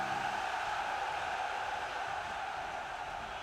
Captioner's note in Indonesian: bersorak